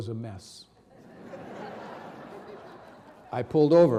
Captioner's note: audience laughing